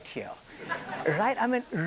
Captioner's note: attendees laughing